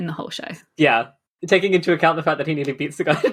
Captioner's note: laughing